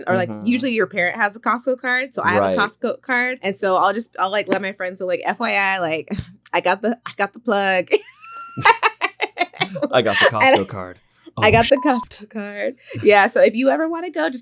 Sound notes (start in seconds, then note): 8.0 laughs; 11.4 beep sound